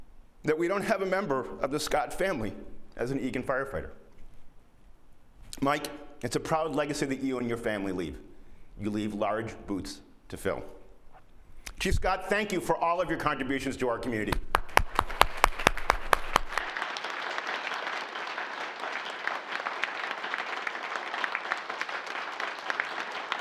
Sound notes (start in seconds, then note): 16.8 applause